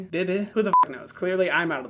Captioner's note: beep